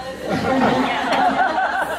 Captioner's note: laughs